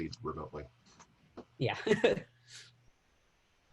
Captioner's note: laughter